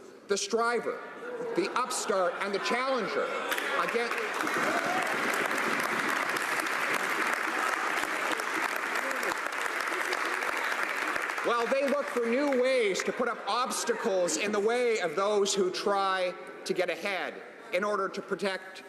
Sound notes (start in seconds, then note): 12.3 applause